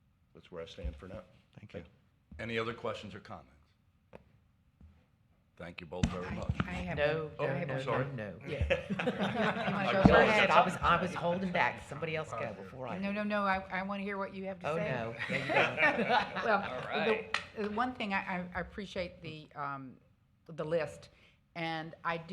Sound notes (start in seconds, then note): 15.1 laughter